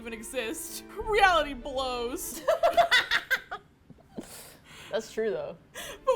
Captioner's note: laughs